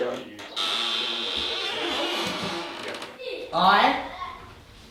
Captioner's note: door creaks